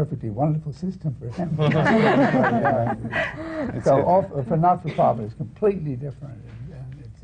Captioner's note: laughter